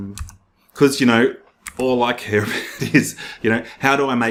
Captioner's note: chuckles